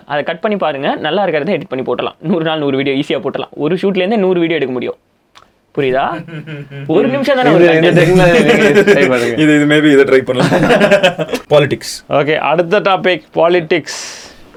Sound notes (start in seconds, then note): 5.9 group laughs